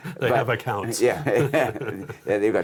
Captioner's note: laughs